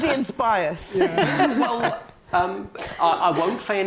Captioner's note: all laughing